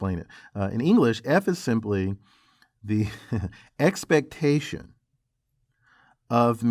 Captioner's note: laugh